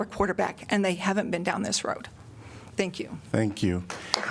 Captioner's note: applause